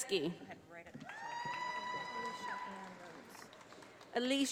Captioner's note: audience applauding